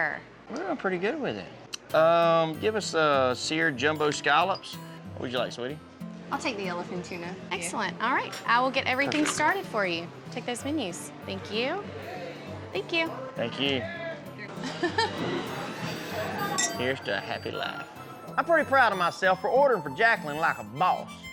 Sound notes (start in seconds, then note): 14.5 giggles; 15.2 glasses clink